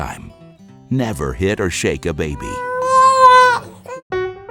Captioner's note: baby crying